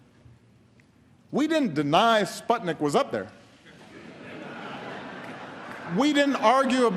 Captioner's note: laughter